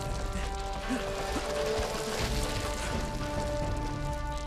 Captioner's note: Robert grunting